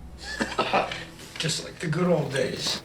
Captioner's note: laughs